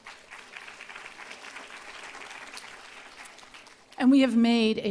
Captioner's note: applause